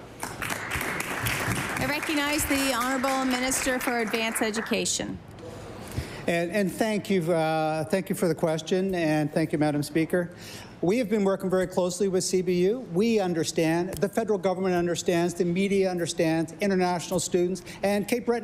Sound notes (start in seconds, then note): 3.7 applause